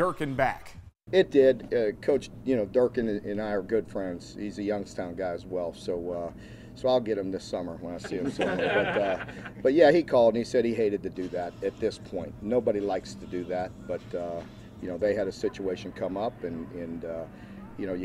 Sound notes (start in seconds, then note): 8.0 laughter